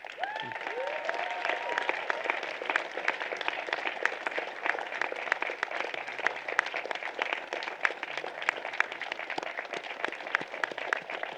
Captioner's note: applause